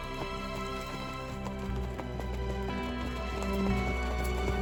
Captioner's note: trotting horses